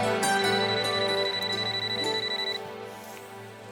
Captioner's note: phone rings